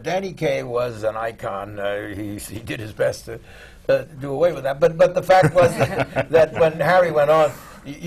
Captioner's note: laughs